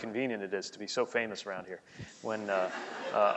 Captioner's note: laughing